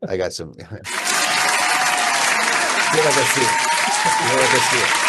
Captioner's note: audience loudly applauds